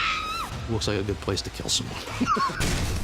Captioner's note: screams; chuckles